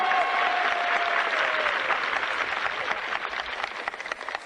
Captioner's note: crowd applauding; crowd cheering